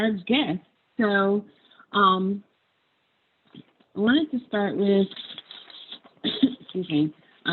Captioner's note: coughs